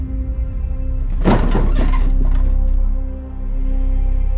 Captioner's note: bed creaking